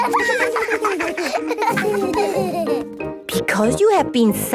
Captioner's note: laughter